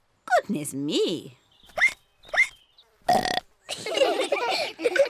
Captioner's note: hiccups; ducks hiccup and burp; all giggle